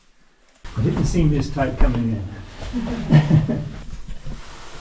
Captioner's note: laughs